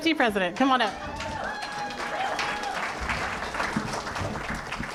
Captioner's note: applause